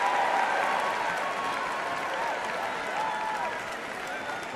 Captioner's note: cheering and applause